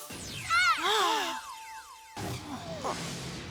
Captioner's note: all gasp